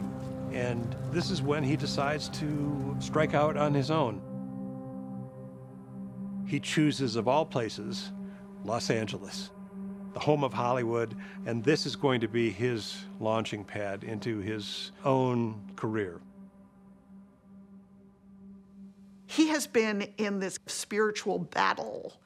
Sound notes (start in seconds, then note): none